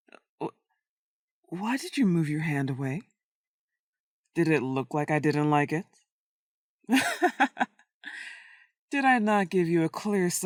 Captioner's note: laughter